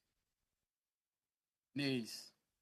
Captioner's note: speaking French